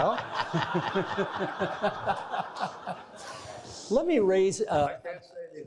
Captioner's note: all laughing